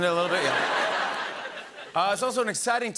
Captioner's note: laughter